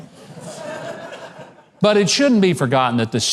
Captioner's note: audience laughing